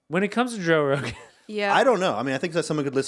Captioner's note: laughing